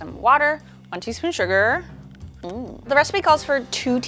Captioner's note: groans